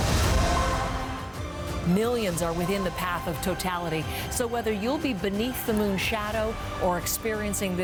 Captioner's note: cheers and Applause